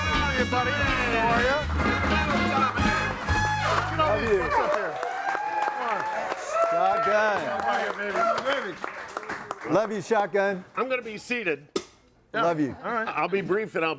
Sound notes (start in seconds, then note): 7.9 audience cheering